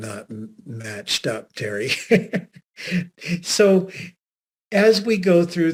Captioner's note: laughing